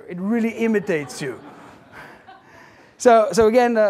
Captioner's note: audience laughing